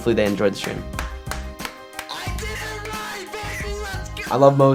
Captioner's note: clapping